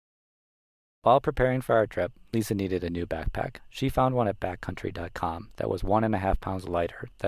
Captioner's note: nature sounds